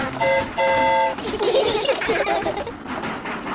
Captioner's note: train horn toots; all giggle